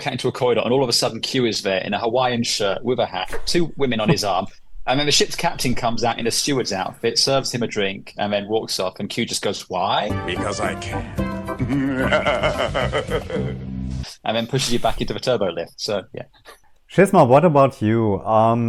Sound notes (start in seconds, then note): 11.8 maniacal laughter